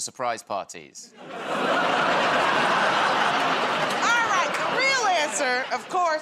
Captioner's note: laughter